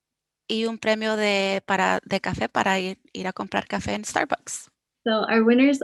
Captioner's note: speaking foreign language